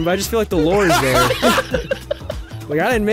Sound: group laughing

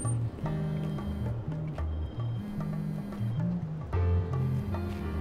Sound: cellphone buzzing

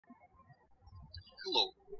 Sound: birds chirping

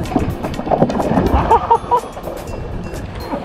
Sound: excited laughter

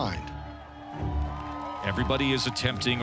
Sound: crowd cheering

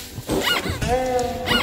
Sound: scrapes the couch

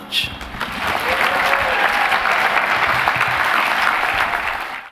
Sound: applause

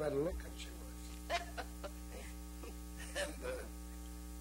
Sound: laughing

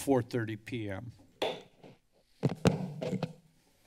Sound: taps gavel; mic noise

